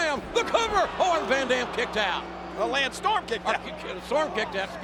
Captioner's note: none